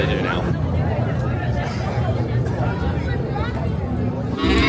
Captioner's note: people chatter